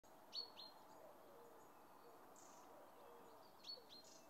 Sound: birds chirping

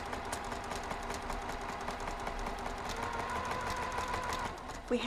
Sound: sewing machine whirring

